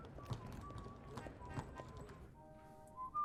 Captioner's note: whistling